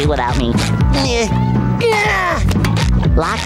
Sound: grunting

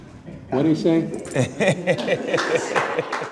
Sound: laughing

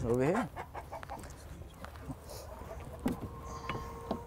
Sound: chickens clucking

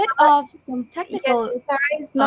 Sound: chatter

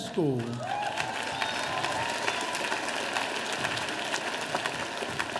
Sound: audience applauding

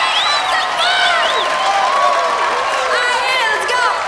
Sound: cheers and applause

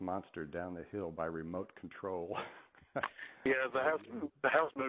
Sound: laughs

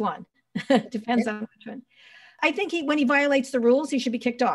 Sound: laughing

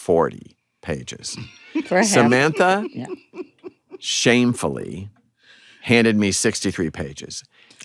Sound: samantha laughs

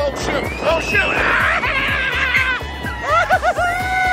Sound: screaming

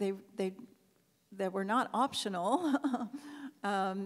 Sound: laughs

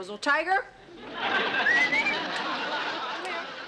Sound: laughter; whistles

